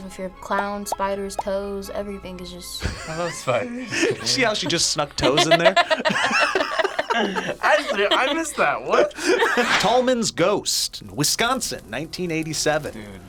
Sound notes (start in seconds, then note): 3.9 laughs; 5.8 both laugh